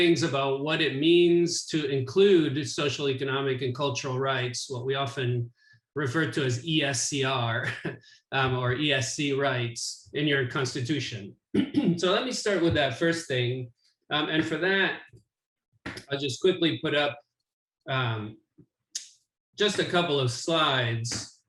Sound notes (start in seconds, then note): 11.5 clears throat